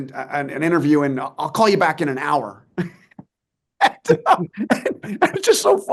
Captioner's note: laughs